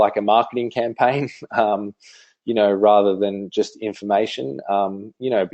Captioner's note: laughs